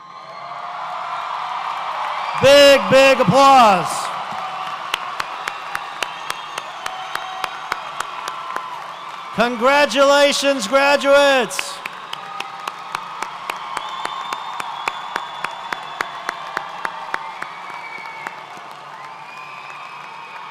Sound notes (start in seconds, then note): 0.1 audience cheers; 5.3 applauds